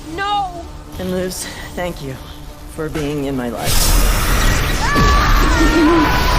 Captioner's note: screams in agony